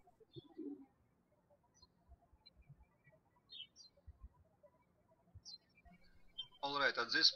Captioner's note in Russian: птички щебечут